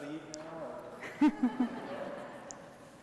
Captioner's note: laughter